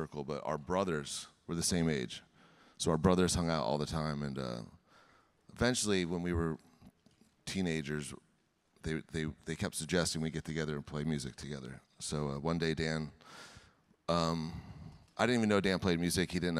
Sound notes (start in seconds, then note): none